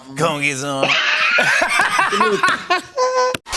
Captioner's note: laughter